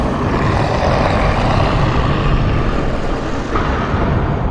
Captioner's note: intense growling